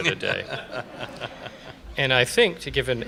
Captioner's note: laughter